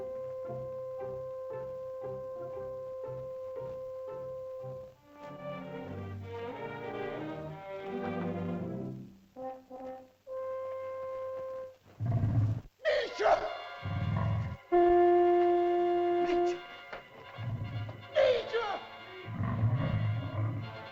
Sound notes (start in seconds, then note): 0.0 whimsical music; 11.8 dinosaur growls; 12.8 man cries out; 13.5 shell toots; 16.2 man speaks in caveman language; 18.1 man cries out; 19.2 dinosaur growls